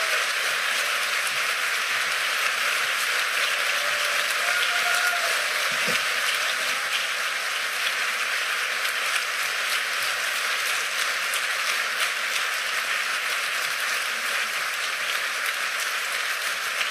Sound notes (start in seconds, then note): 6.0 cheers and applause